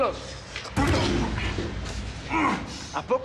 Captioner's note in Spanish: Golpes